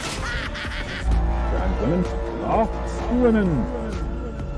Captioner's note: booming foghorn